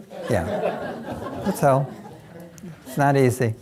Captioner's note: audience laughing